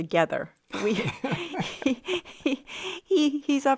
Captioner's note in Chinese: 笑聲